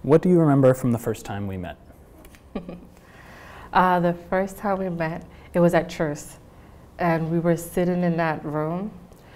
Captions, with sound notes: - What do you remember from the first time we met? - (chuckles) The first time we met, it was at Truth's and we were sitting in that room.